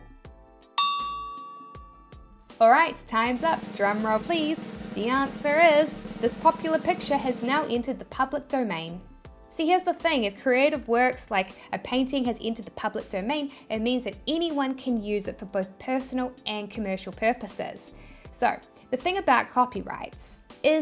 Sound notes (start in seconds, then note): 0.8 timer dinging; 2.7 drums rattling